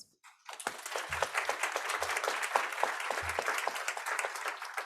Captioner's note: audience applauds